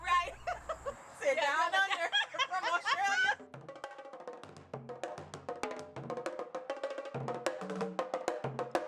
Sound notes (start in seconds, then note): 1.3 laughing; 4.5 drums play